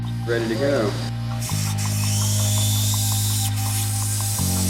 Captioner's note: tool whirring